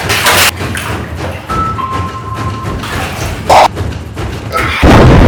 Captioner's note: wild notification sounds